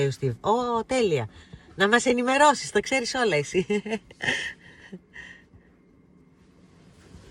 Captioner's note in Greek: γέλια